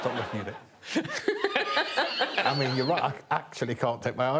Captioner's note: Alan laughs